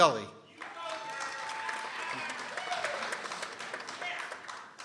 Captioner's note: people cheering